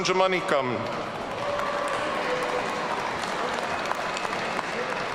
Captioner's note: audience cheering